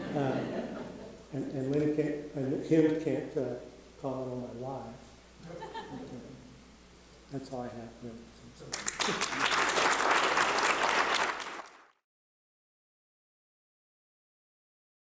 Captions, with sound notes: (audience laughing) And Caleb can't comment on my lies. That's all I have for this presentation. (audience applauding)